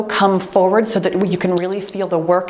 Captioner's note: time beeps